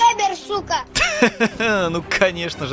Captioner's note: laughs